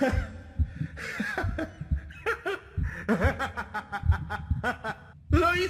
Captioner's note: more evil laughter